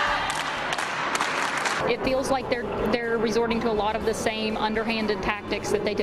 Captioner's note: chanting